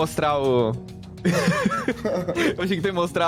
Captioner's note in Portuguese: Risadas